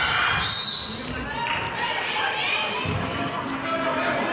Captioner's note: whistle blows